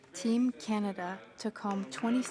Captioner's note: speaking French